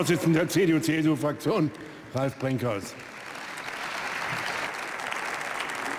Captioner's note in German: Beifall bei der CDU/CSU